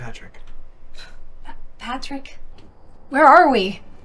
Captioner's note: gasps